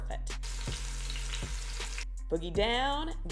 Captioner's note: pork sizzling